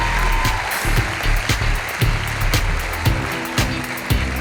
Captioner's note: audience applauding; upbeat music